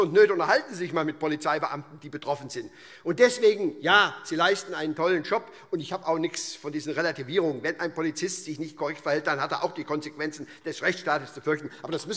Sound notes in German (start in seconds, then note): none